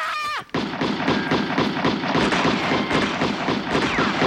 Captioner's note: guns firing